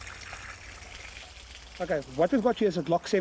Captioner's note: water splashing